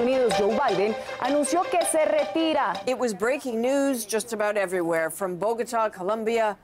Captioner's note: speaking alternate language